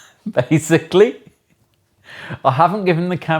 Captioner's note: laughing